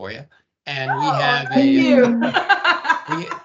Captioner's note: laughing